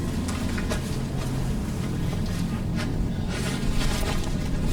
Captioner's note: body rustling